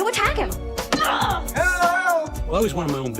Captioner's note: shouts